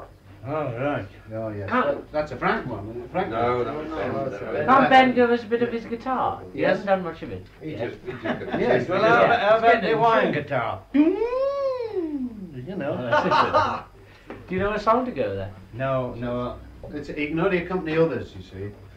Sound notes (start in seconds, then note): 11.0 makes Guitar noises; 13.0 laughter